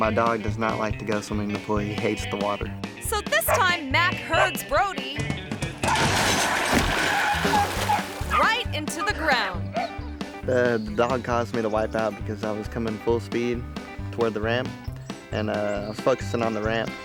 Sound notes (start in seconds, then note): 5.8 table crashes; 5.8 dog barks